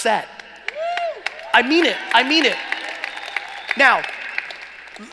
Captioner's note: cheering and applauding